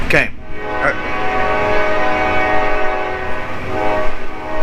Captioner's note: train horn persists